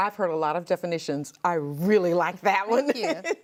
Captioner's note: laughs